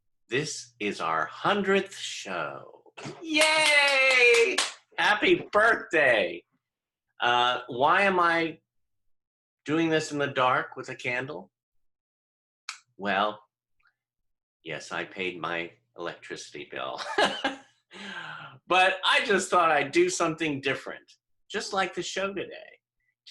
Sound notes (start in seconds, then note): 3.3 clapping; 16.9 laughter